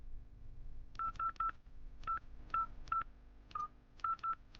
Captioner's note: phone beeping